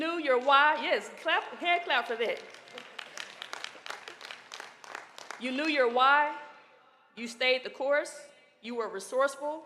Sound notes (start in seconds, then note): 6.6 applause